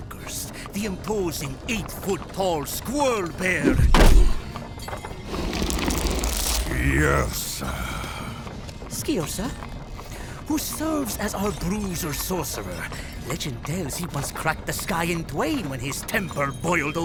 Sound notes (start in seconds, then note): 3.6 large hand slams into wood, followed by scraping